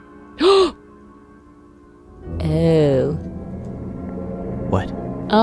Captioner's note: gasps